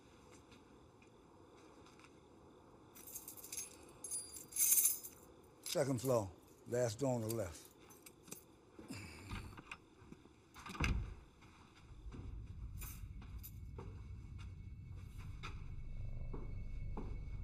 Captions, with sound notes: Second floor. Last door on the left. [door opens] [door clicks shut] [suspenseful music]